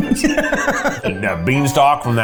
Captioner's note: laughs